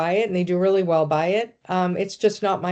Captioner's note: none